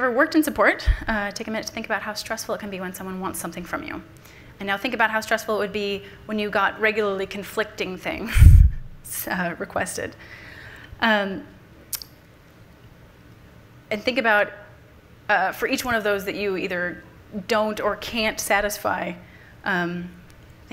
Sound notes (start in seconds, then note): 8.8 laughs